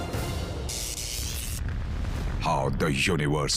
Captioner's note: electricity buzzing